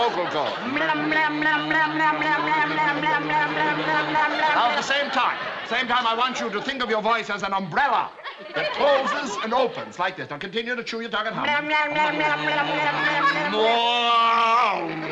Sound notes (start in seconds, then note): 0.6 humming; 11.4 both humming